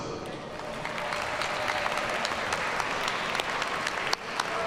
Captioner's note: audience applauds